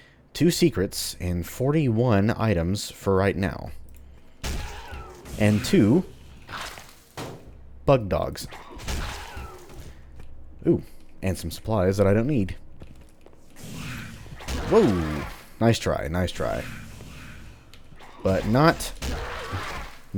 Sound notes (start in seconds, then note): 4.4 whack; 7.1 clunk; 8.7 whack; 13.6 Bugdog snarls; 14.4 whack; 19.0 whack